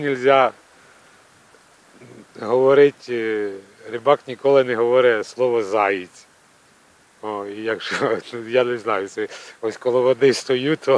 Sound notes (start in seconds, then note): 7.7 laughs